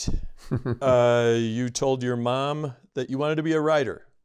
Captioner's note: laughter